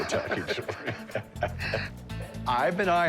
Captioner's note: chuckles